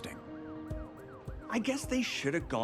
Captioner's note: siren blaring